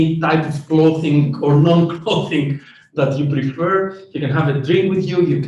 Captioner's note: laughs